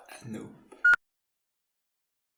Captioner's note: beep